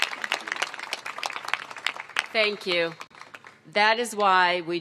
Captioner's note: applause